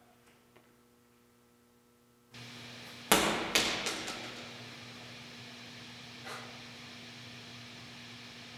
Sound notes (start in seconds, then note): 2.3 static hissing; 3.0 ball thudding